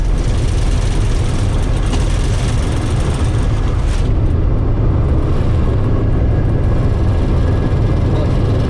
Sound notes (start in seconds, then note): 3.0 low rumbling